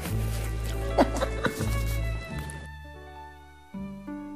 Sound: Barabas laughing

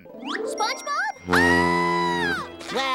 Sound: screams

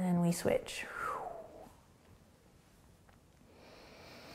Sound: blowing air, breathing

